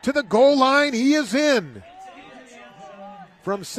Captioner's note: applause